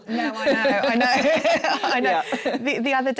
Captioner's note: laughter